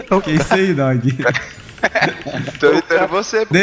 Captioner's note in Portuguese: risos